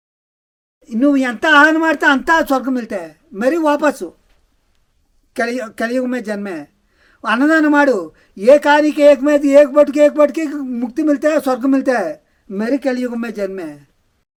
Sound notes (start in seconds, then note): 7.2 speaking telugu